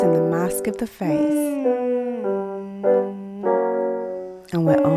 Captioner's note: piano scales continue; humming continues